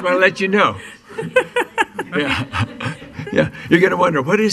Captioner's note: laughing